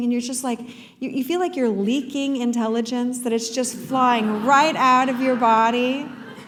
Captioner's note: laughter